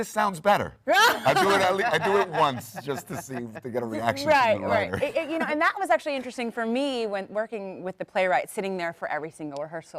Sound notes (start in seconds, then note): 4.0 panel laughs